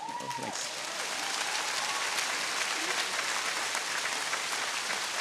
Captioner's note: audience cheering